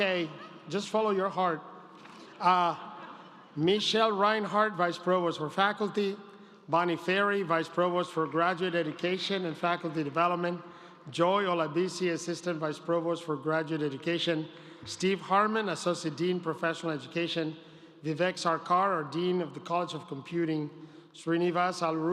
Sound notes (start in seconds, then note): 5.0 laughter